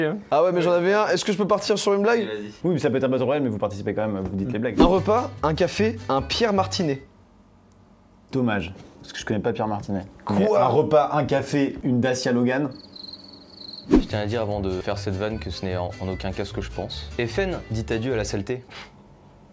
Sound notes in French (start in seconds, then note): 12.6 chant de grillions; 18.7 souffle du nez